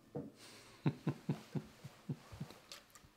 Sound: laughs

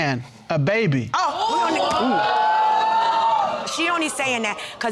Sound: audience exclaiming

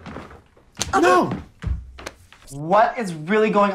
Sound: slaps

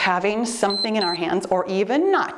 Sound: timer beeps

